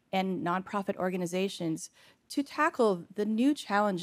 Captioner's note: none